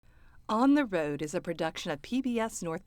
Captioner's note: voiceover